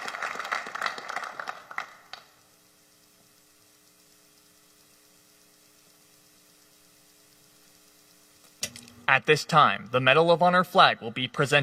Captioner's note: applause